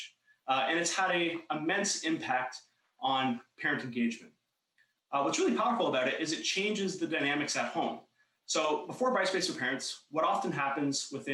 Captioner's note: talking fast